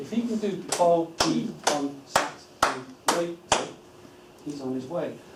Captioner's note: clapping